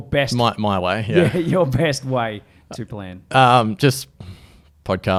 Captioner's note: laughs